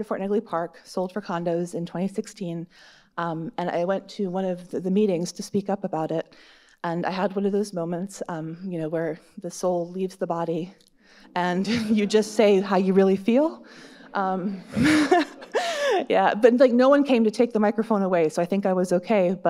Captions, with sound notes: Part of Fort Negley Park sold for condos in 2016. And, I went to one of the meetings to speak up about it, and I had one of those moments, um, you know, where the soul leaves the body, and you just say how you really feel. (audience laughs) (laughing) Yeah, but, like, no one came to take the microphone away, So, I think I was okay.